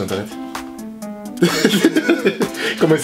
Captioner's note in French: Rire